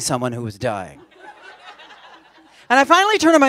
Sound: laughter

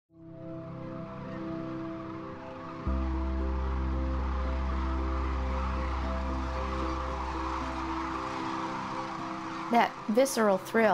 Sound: crane song

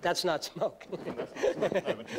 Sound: laughs

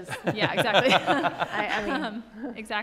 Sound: laughs

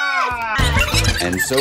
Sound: squeaking

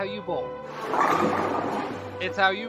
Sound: pins clattering

